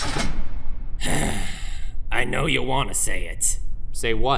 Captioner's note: sigh